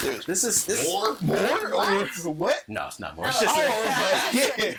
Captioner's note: all laughing